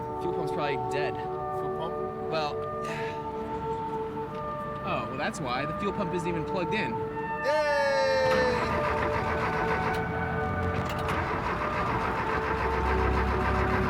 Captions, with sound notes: - Fuel pump's probably dead. - Fuel pump? - Well... Oh, well that's why. The fuel pump isn't even plugged in. - Yay! (starting the engine)